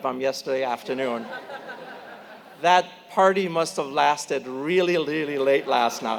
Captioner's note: laugh